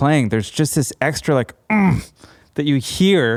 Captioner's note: groans